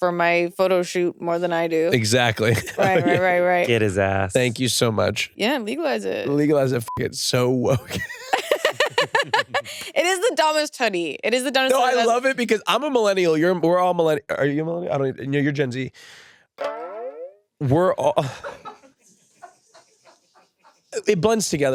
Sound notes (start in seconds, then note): 6.8 beep; 7.7 all laugh; 19.3 crew members laugh